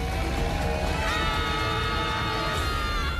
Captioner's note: screaming